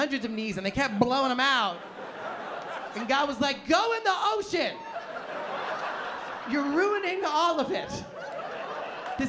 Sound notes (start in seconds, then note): 1.7 laughter; 4.6 laughter